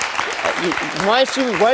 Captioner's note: audience applauds